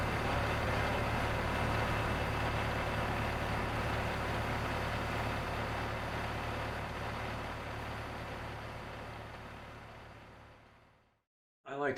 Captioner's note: tractor stalling, fading out